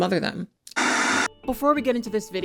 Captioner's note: static buzzes